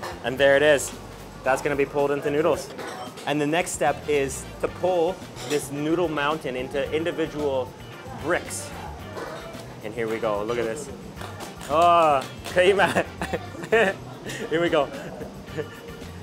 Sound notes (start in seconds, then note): 0.0 speaks in Chinese; 11.7 speaks in Chinese; 12.8 laughing